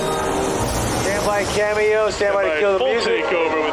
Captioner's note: mid tempo music; plane engine roars